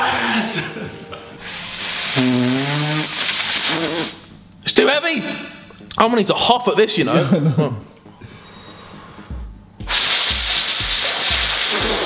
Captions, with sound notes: (blowing) - It's too heavy How many to hopper this, you know. (blows)